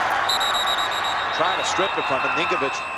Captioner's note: whistle blows